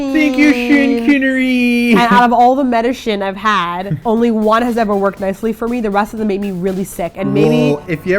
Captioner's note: machinery